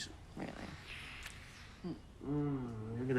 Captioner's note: lips smacking; Paul moans